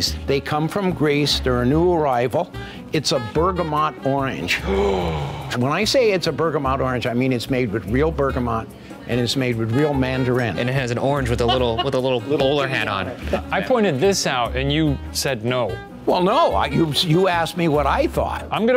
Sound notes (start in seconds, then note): 4.6 gasps